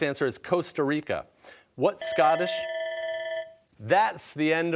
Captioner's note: bell ringing